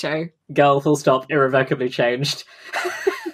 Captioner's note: laughs